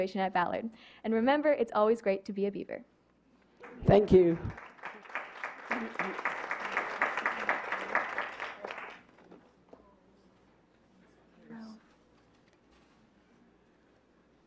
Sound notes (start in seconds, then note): 8.6 clapping